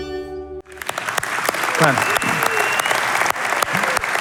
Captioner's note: applause